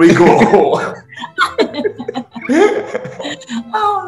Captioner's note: laughing